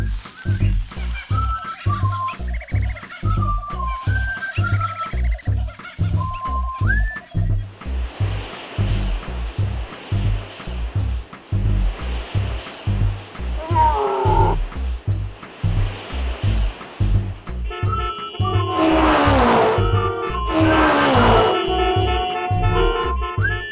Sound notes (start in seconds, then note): 0.2 birds and insects chirping; 13.6 growling; 17.7 honking; 20.2 engines revving